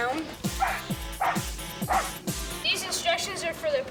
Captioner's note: barking